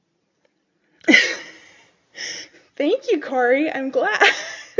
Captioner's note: laughs